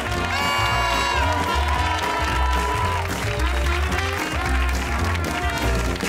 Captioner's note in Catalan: aplaudiments